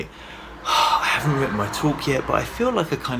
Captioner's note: sighs